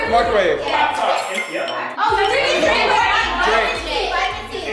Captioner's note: guests chatter